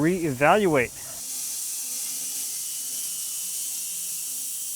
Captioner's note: machine whirring